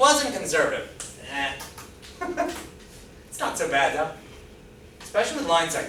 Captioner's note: laughs